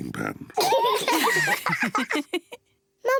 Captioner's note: all laugh